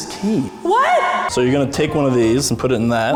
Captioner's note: echoing